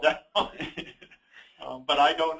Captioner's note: both laugh